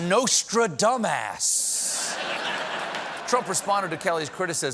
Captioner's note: laughter